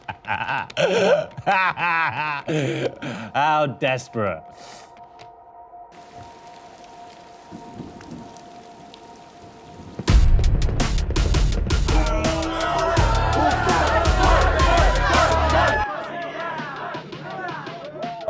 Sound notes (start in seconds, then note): 0.2 ominous music; 5.9 rain pattering; 6.0 thunder rumbling; 10.0 dramatic music; 11.8 people hollering; 14.6 crowd